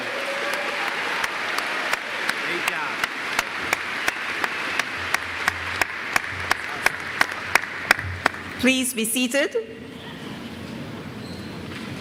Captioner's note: applause